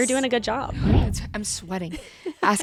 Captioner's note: zoom whooshes